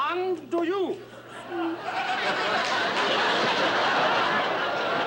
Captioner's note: laughter